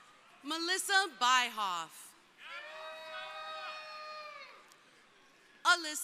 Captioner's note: crowd cheering; crowd cheering